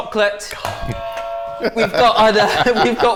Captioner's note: buzzer